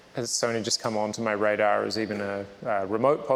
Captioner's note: none